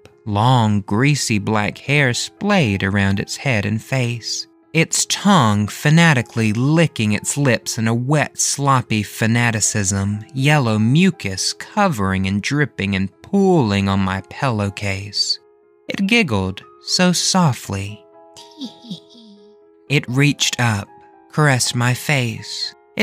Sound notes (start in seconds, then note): 18.4 giggling